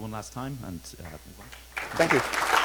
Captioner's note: crowd applauds